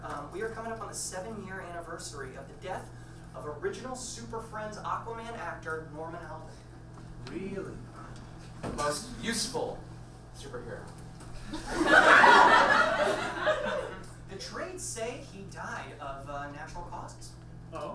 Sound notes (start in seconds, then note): 11.4 audience laughs